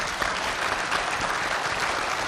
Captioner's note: applause